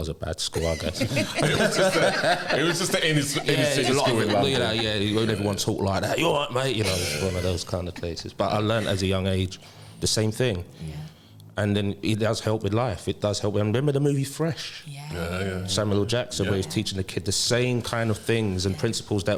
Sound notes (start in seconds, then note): 0.6 laughter; 3.1 cockney accent